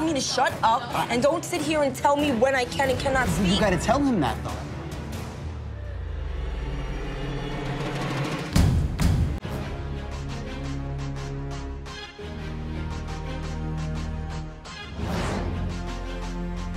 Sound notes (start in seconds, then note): 5.2 dramatic music; 7.8 banging